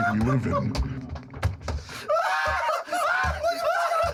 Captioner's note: laughter